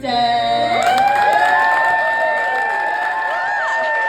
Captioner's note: cheering